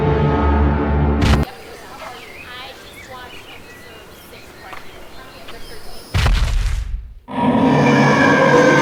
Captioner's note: siren